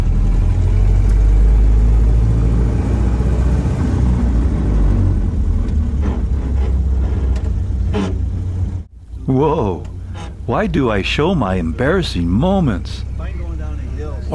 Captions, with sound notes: (Shifting gears grind sounds) Whoa! Why do I show my embarrassing moments?